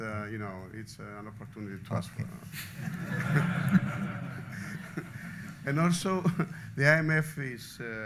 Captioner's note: laughter